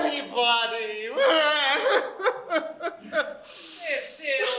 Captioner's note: coco sobs